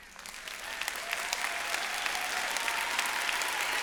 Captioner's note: applause